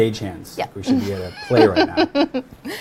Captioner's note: laughs